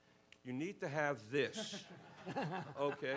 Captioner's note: laughs